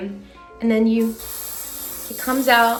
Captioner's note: can hisses